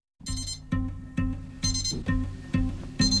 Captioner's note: alalarmrm b beeeeps